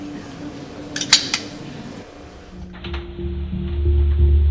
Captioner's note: gun clicks; soft tense music